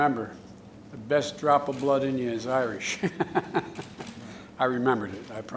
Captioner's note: laughs